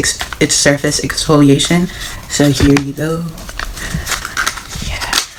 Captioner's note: opening the Package sounds